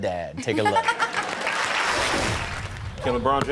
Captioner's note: audience laughs and claps